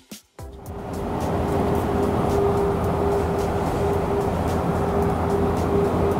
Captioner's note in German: Fahrgeräusche